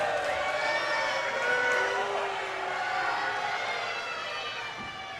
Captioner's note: crowd booing